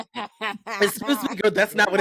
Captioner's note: laughing